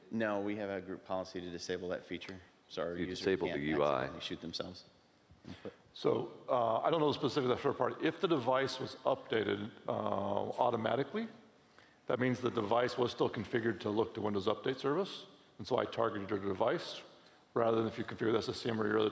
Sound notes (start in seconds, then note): none